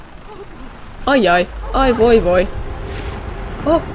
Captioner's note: wailing